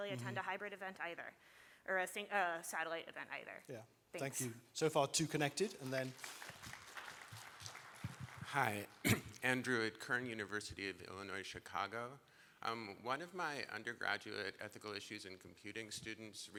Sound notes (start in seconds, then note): 5.6 applause